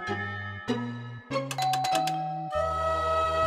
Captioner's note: doorbell ringing